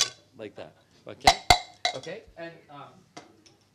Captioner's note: clinks glasses